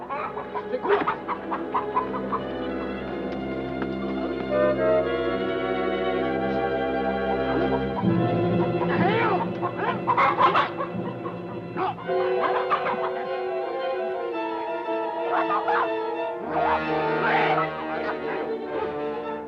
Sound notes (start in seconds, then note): 0.1 bird bawking; 9.2 soldier yelling; 12.2 tense adventurous music